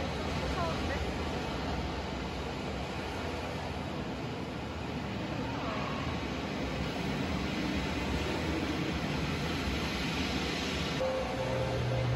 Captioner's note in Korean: 뭔가 심해에 있는 느낌 물속에 울리는 울음 소리가 왠지 무서움